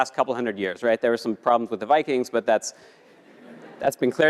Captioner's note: laugh